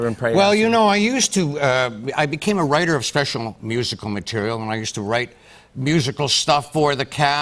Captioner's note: none